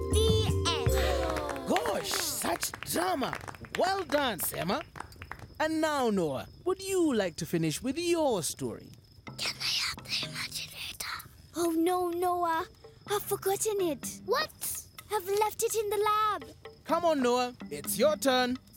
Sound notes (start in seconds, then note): 0.7 applause; 8.8 whispering